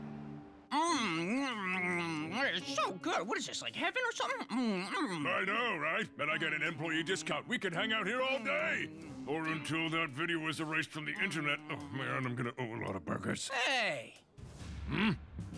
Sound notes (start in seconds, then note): 0.7 moaning